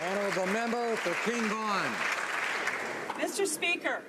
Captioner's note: some Applause